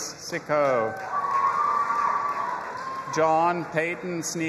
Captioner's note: audience applauding and cheering